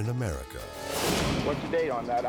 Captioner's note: graphics whooshing